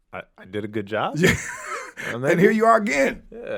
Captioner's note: laughing